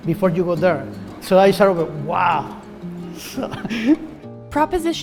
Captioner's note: chuckles